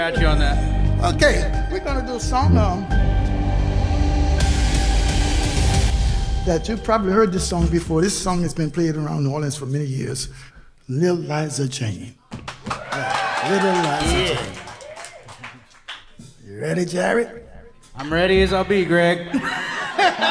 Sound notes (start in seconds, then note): 12.4 audience applauding; 19.3 laughs